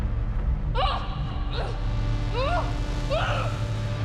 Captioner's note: Miriam grunting